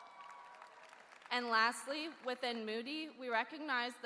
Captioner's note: cheering